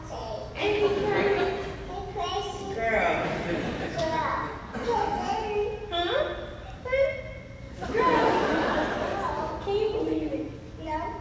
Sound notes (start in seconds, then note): 4.6 child mumbling